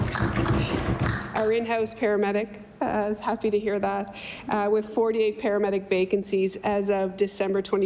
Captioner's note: applause